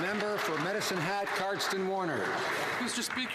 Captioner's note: some Applause